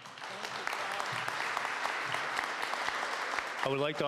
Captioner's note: applause